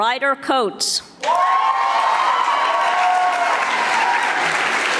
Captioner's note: audience applauding